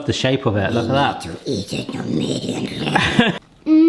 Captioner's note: growling; laughs